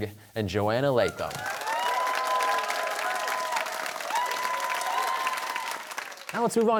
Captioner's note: cheers and applause